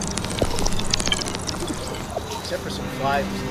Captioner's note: chirping calms down